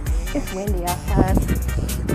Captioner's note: wind blows